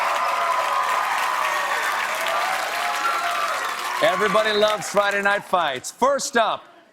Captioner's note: cheers and applause